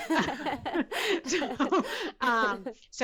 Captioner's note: laughter